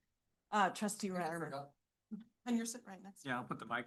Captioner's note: speaks faintly